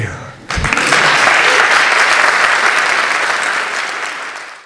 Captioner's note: applause